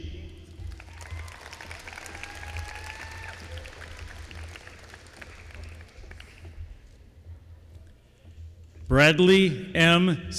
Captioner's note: applause